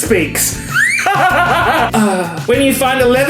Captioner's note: laughs